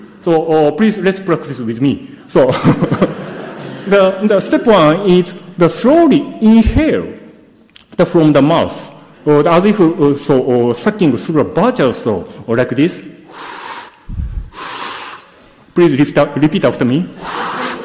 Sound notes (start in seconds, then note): 2.4 audience laughs; 2.5 laughs; 13.2 sucks in air noisily